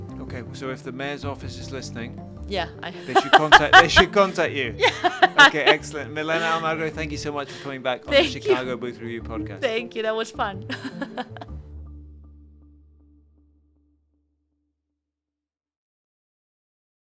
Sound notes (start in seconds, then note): 10.7 chuckles